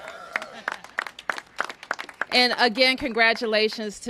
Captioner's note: applause